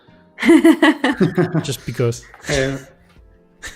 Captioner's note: laughter